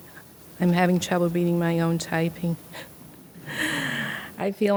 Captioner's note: laughs